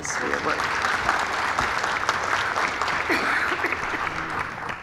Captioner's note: audience clapping